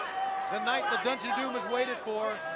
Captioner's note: crowd chatter